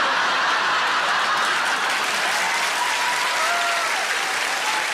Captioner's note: audience cheers